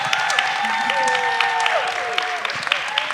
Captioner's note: audience applause